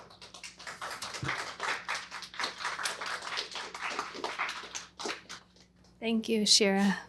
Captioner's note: applause